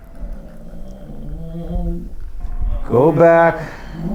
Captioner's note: groans